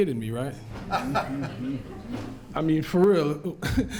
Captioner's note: laughter